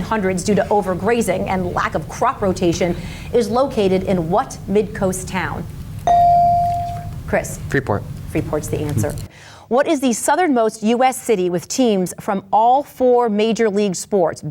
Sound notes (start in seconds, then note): 6.0 bell dings